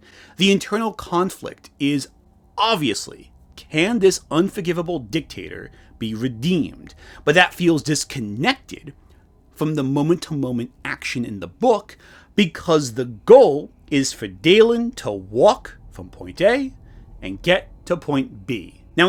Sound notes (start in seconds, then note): none